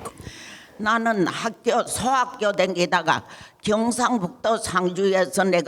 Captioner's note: speaking in foreign language